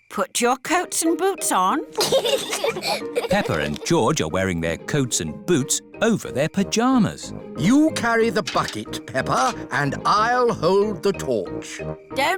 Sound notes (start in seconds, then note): 1.9 both giggle